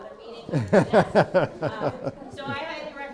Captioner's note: laughs